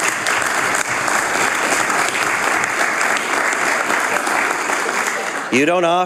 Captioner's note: some Applause